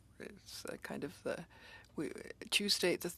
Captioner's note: speaking French